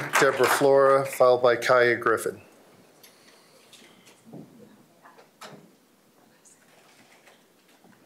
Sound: applause

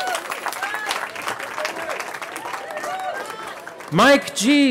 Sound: cheering

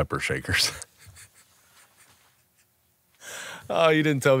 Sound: laughs

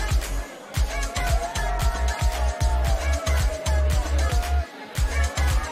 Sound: shouting

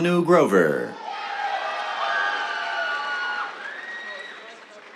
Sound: cheers, applause

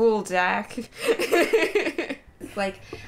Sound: laughter

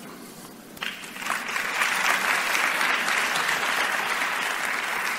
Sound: audience applauding

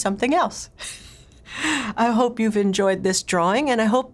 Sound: laughter

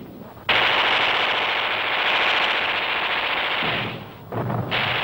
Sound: explosion booming; gunfire thundering; explosions booming

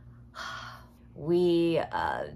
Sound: sighs

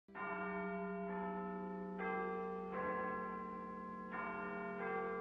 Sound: westminster chimes

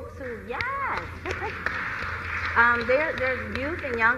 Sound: applause

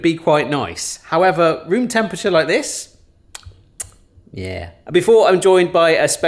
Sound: smacks lips

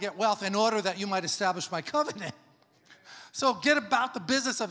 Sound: laughs

